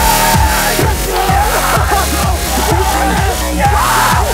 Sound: shouting, cheering

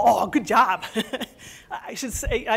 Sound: laughs

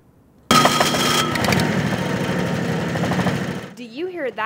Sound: car starting

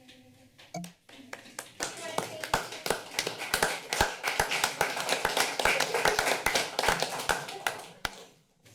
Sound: applause

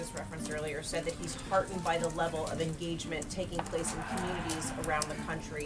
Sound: crowd cheer sound

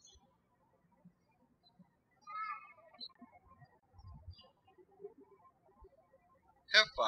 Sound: birds chirping

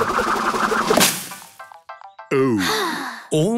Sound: drum roll; Peppa sighing

